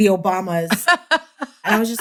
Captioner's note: laughter